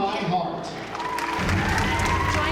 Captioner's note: applause